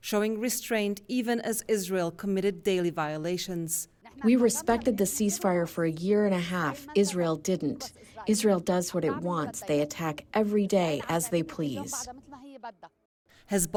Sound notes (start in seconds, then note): 4.6 through translator